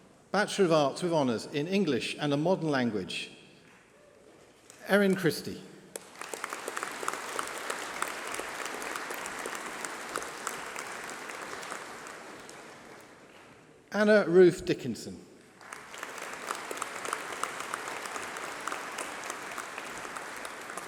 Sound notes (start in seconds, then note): 5.8 applause